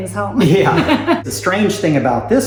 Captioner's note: laughs